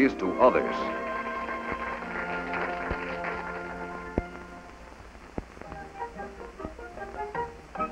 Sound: applause and music

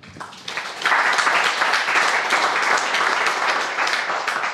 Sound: crowd applauding

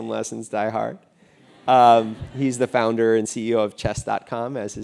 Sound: laugh

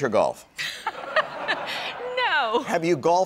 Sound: Vanna and crowd laughing

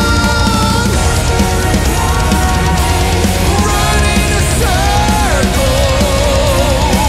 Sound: desperate cries

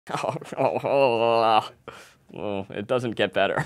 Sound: disgusted noises

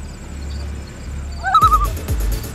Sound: loon call

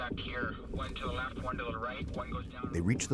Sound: voiceover

